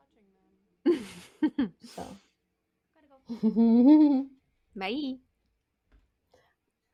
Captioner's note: giggles